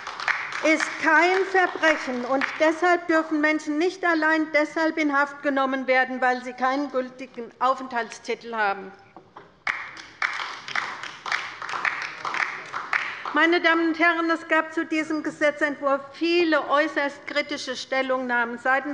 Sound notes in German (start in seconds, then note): 9.6 Beifall bei der LINKEN